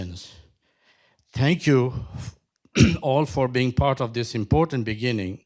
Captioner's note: coughs